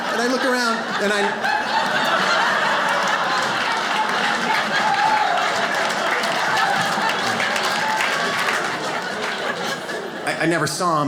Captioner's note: audience laughs